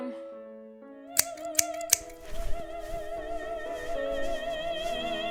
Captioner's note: scissors snipping